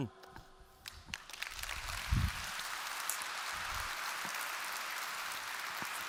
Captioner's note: applause